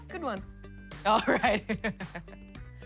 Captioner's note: laughs